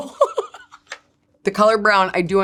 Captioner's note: person laughing